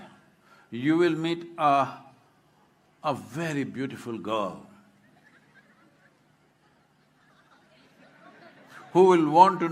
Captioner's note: laughter